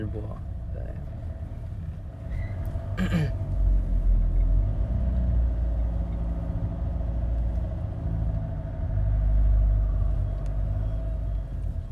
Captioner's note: vrRrrroom vrrrrrrOoooom